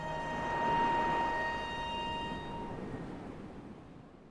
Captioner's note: waves crashing